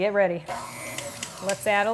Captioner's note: mixer whirls